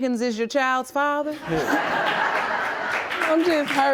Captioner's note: audience laughing